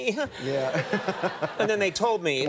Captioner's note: Kevin and audience laughs